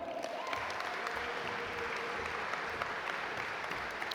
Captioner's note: audience applaud